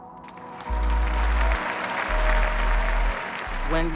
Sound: audience applauds

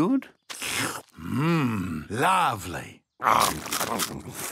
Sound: slurps

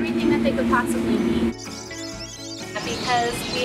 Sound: birds chirping

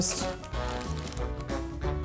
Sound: crunch; upbeat music

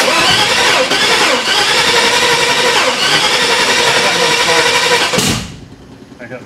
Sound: engine turns over

